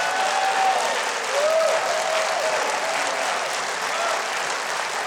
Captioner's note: crowd cheering